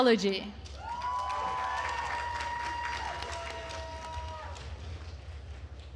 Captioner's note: attendees cheering and applauding